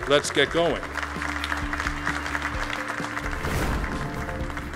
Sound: applauding

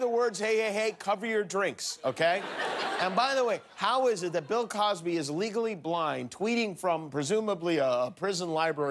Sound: laughter

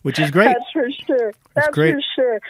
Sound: laughing

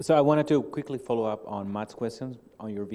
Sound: Indian accent

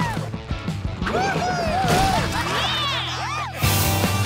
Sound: cheering

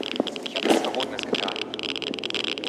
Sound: speaks in foreign language

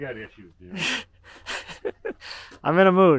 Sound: laughs

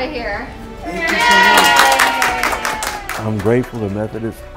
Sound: cheering and applause

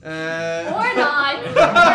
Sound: tehe

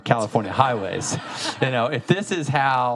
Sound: audience laughing

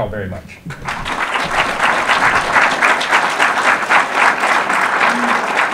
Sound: audience applause

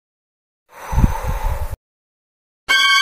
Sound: exhale

